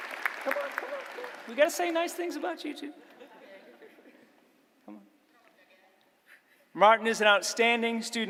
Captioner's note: applause